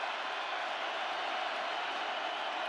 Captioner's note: crowd cheering